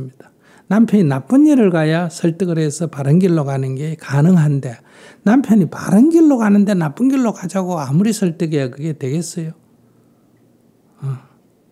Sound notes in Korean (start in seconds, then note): none